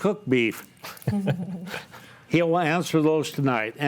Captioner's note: group laughs